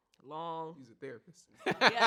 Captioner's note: laughs